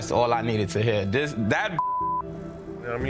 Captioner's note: beep